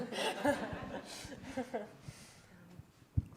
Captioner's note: laughter